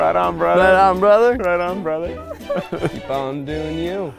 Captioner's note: laughs